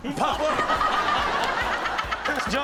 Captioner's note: audience laughs